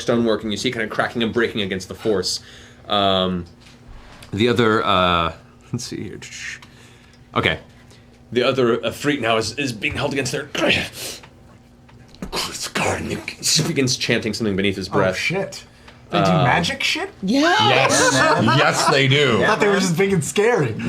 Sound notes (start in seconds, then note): 11.0 foreign language